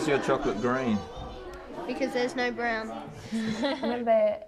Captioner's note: chuckles